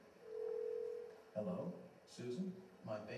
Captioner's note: phone ringing